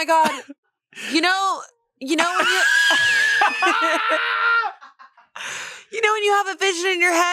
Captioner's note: everyone laughs